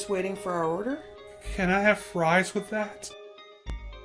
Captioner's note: scared